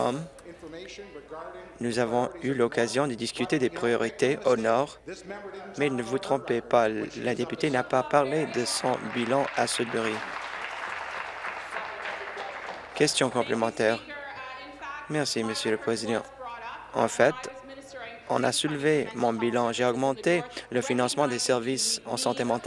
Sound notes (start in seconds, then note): 13.8 applause